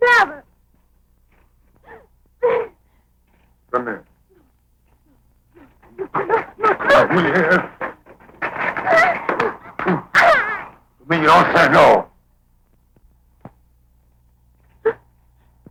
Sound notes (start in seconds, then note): 2.4 crying; 9.1 Gelsomina crying; 11.4 speaking foreign language